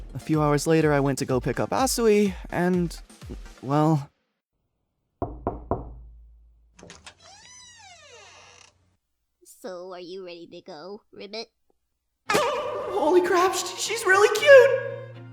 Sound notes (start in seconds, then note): 5.2 knocking on door